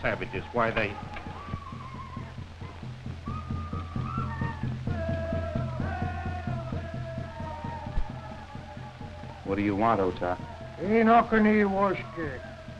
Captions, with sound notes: Why, they-- [door opening] -What do you want, Otah? [SPEAKING NATIVE AMERICAN LANGUAGE]